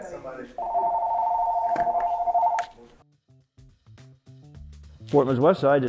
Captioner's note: phone continues ringing